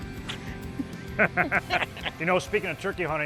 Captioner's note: laughs